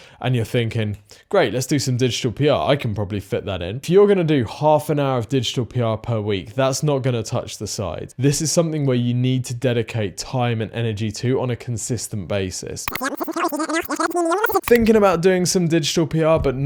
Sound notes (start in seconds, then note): 12.9 video whirs